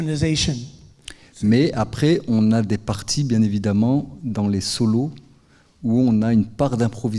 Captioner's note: speaking in French